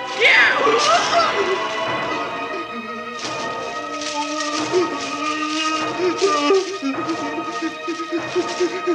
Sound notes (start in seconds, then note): 0.1 scream; 2.3 whimper